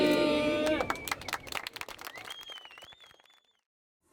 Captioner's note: applause